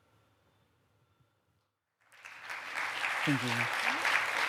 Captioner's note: applause